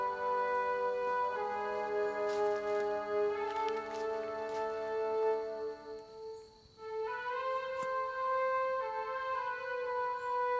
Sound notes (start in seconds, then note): 2.4 grass crunching; 7.1 solemn music continues